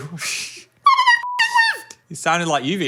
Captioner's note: beep